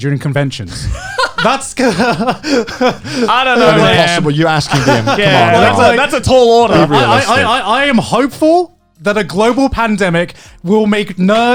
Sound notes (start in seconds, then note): 2.9 laughing